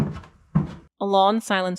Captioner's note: creaking of stairs and retreating boots